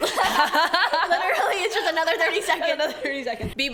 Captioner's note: laughs